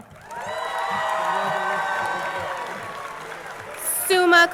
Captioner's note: crowd cheering and applauding